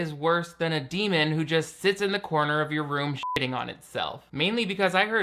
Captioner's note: beep